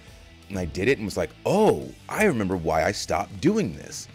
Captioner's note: none